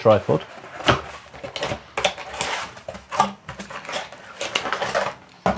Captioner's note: box scraping and rattling